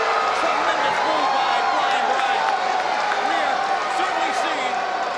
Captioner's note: crowd cheering; presenter speaking faintly off mic